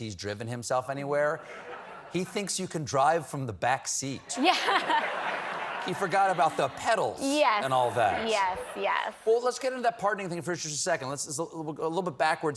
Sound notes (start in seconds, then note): 4.3 laughter